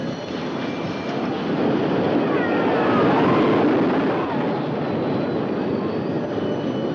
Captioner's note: cheerful music; roller coaster rattling; people screaming